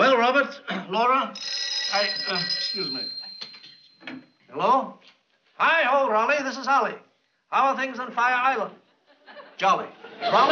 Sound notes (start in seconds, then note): 1.3 phone ringing